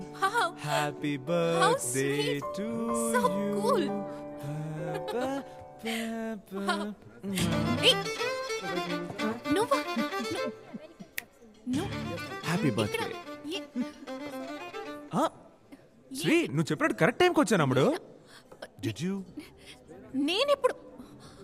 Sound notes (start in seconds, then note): 4.4 Humming; 4.8 Laughs; 11.2 Snaps finger